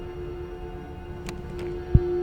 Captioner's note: door knob clinks; slow heart beat